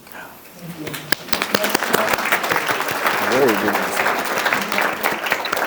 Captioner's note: audience applauds